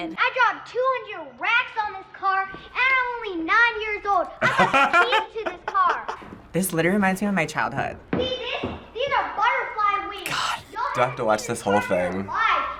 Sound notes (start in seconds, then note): 4.4 laughs